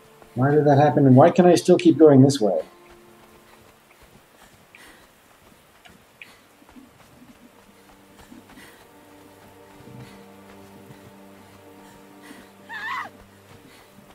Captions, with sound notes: Why did that happen, and why can I still keep going this way? [Anne panting] [Anne cries out]